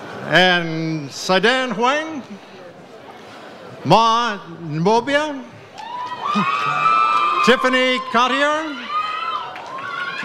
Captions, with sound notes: And Sadan Huang. Ma Mobia. (audience cheers) Tiffany Cautier.